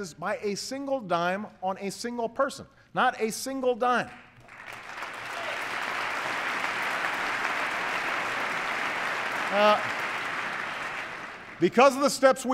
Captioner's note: applause